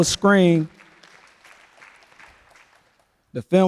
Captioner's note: applause